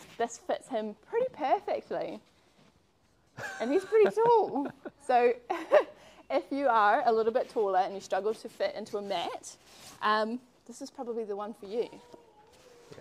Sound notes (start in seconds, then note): 3.4 chuckle